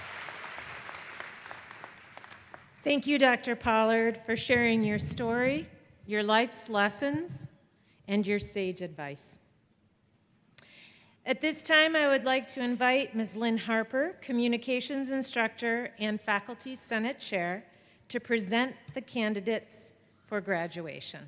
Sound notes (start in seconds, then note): 4.3 applause